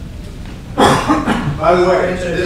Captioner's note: coughing